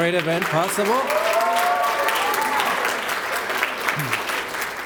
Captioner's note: applause